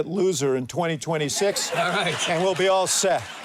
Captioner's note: audience laughs